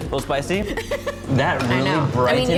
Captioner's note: laughs